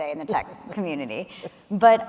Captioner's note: chuckling